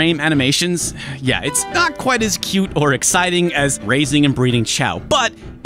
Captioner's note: sigh